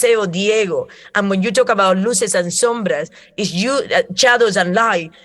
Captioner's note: Spanish